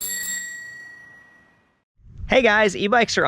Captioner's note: bike bell ringing